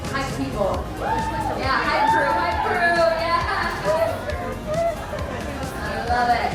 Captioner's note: guests cheering